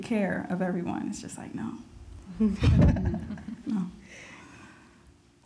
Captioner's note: group chuckles